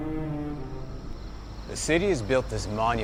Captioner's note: cicadas chirping